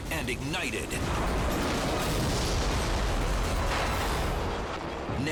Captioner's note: explosion booming